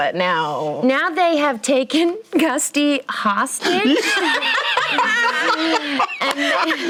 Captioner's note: outburst of laughter